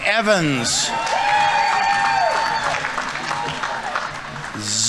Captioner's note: audience members cheering; audience applauding